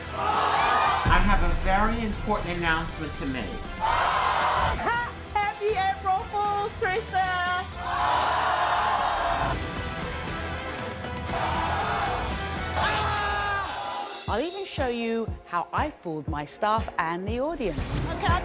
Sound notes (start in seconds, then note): 0.0 crowd shouting; 3.8 crowd shouting; 9.8 dramatic music